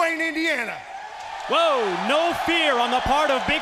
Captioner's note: crowd cheering